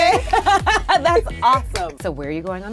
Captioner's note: both laughing